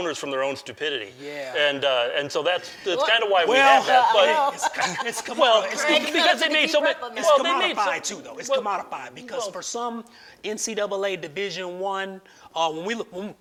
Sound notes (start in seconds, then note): 2.7 laughs; 3.9 all speak in unison